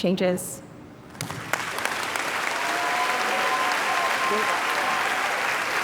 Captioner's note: audience cheering and applauding